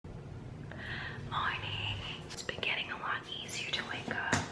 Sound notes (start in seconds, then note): 1.3 whispers